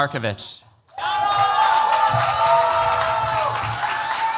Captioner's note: cheers, applause